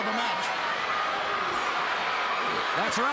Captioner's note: crowd cheering